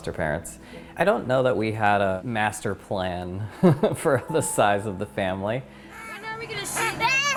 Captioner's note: laughs